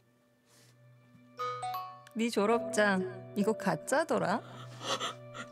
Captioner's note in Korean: 휴대전화 문자 수신음